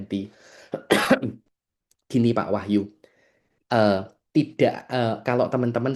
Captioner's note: berdehem